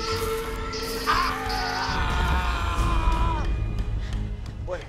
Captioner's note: screaming